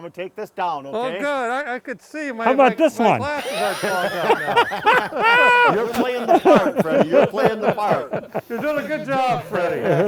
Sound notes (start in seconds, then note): 3.2 laughter; 3.4 wheezing; 9.8 laughter